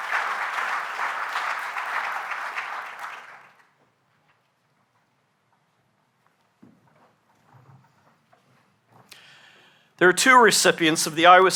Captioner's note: applause